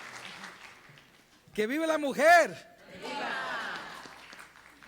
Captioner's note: applause